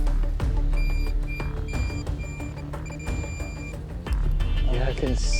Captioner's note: beeping